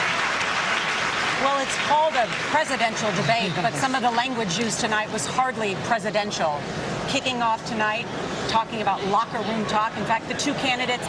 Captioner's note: applause